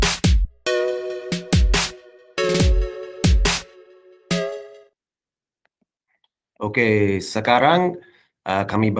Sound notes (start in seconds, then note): 6.1 non-english speech